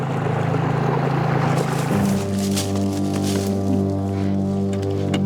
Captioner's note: gravel rattling